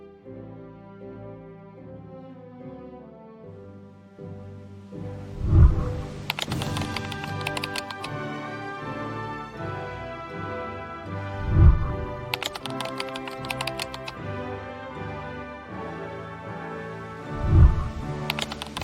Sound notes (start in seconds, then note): 0.2 graduation song playing; 5.3 whooshing sound; 11.4 whooshing sound; 12.3 keyboard clicking; 17.4 whooshing sound